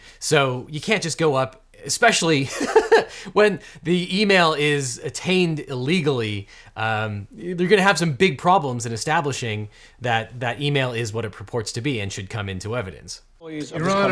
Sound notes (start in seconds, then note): 2.5 laughing